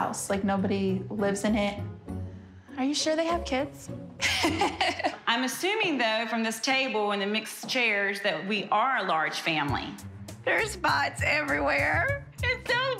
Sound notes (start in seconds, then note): 4.2 laughs